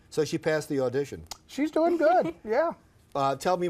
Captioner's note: laughs